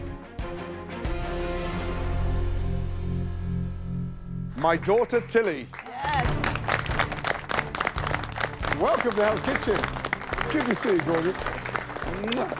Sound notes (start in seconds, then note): 0.1 suspenseful music; 6.5 applause